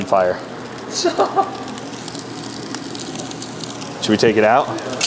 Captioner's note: laughing